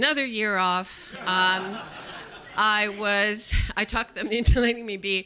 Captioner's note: audience laughing